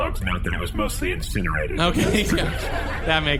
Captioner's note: audience laughter